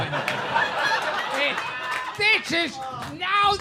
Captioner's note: people laughing